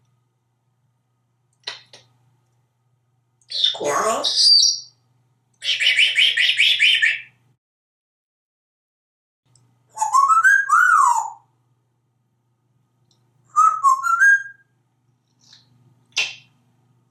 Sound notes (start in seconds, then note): 5.6 whispering; 9.9 melodic whistle; 13.5 melodic whistle; 16.1 beak smack